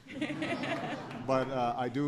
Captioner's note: laughter